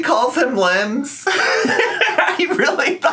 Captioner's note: laughs